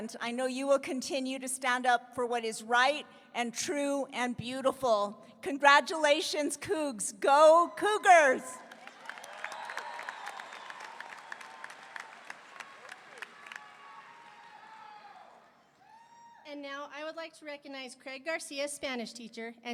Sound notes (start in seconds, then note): 8.6 audience applauding; 9.3 audience cheering